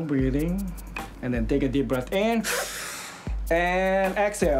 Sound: inhales

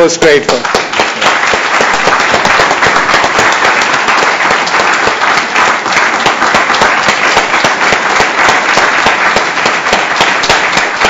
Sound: applause

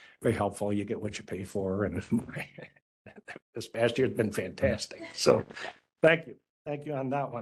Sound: laugh

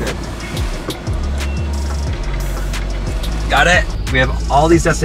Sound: beeps

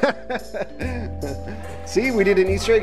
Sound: laughing

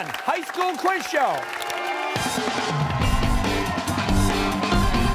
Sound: cheers and applause

